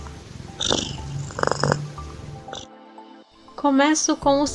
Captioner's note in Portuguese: ronrom